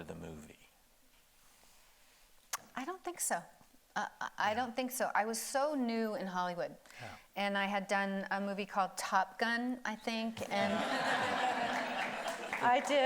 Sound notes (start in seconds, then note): 3.0 lip smacks; 10.5 audience laughing